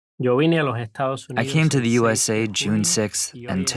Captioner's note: through translator